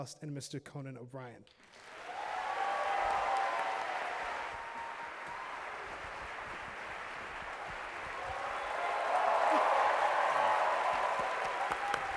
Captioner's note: applause